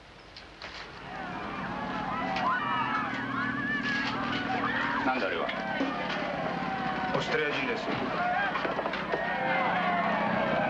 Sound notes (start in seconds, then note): 1.4 yelling; 6.9 speaking foreign language